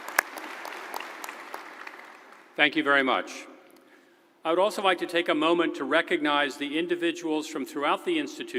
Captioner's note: applause